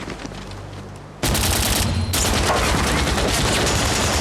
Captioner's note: machine-gun fire